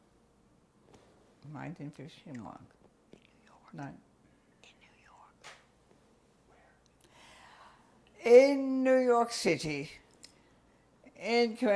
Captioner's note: pauses for 6 seconds